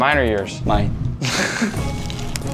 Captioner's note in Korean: 웃음